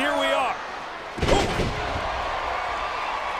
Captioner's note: bodies thud; audience cheering